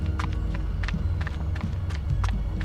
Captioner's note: footsteps continue